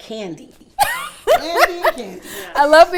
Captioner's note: laughs